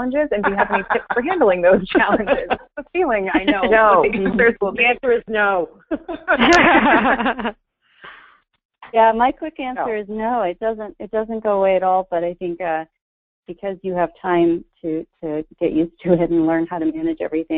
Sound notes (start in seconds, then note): 3.7 voiceover; 8.4 voiceover